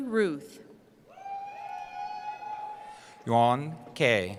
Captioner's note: cheering